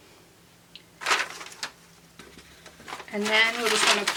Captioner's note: paper rustles